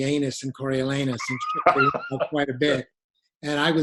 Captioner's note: chuckles